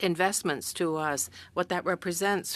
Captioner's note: speaking French